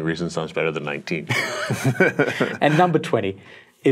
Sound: both chuckle

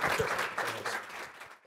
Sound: audience applauds

